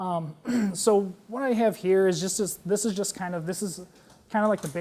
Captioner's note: cough